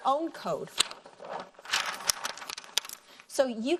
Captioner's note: paper rustling